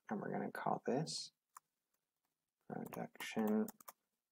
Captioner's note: typing